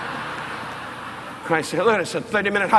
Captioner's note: audience laughing